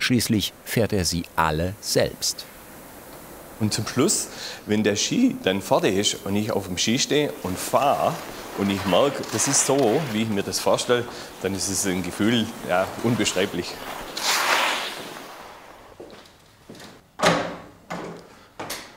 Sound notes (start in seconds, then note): 14.0 snow crunch; 17.1 rattle